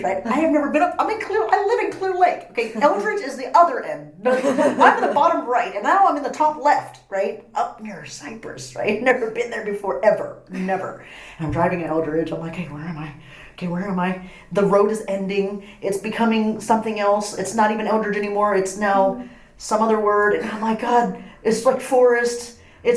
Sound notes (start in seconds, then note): 4.3 laughs